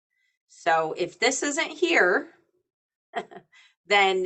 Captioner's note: chuckling